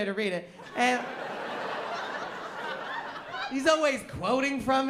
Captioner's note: laughter